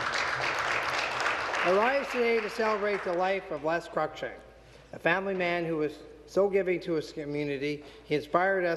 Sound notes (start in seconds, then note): 0.0 some Applause